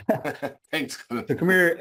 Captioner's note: chuckles